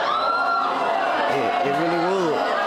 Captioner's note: audience exclaims